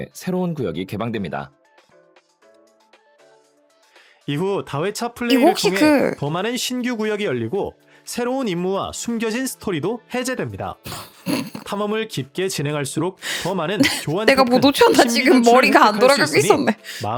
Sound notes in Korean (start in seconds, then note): 10.9 콧방귀; 13.8 웃음